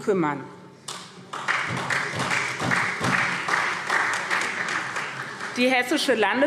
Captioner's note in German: Beifall SPD